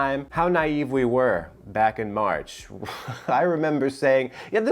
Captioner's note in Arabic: ضحكات خافتة